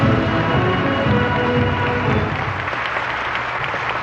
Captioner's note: applause